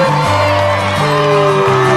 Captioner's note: booing